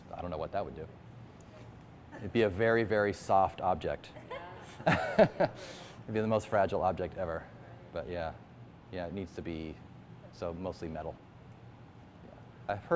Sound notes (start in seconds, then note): 4.2 laughter